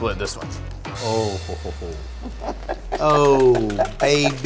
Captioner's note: laughing